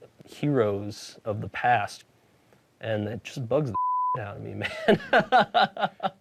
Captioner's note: beep